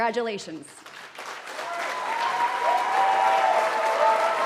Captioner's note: cheering